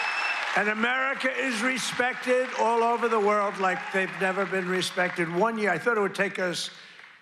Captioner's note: cheers and applause